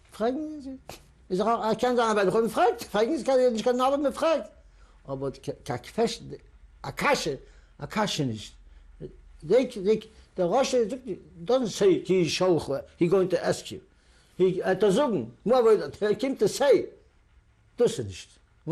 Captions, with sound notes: [NON-ENGLISH] is I-- I can't [YIDDISH] They, they-- the Russians don't say, he [NON-ENGLISH],, he going to ask you. He [NON-ENGLISH],, moreover, they came to say, [NON-ENGLISH]..